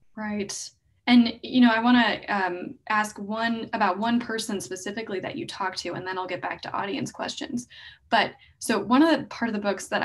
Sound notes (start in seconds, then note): none